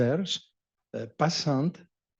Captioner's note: french